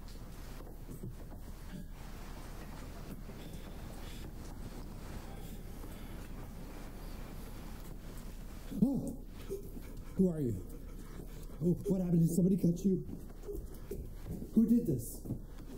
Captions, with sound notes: (Jason gasps) Who are you? What happened, did somebody cut you? Who did this?